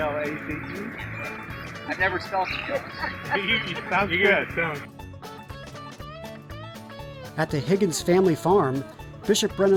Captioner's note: laughing